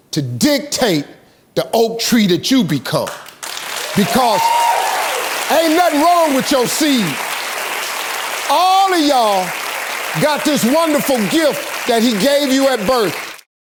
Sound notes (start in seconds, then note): 3.9 audience cheers